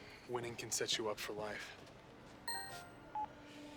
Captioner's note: phone chimes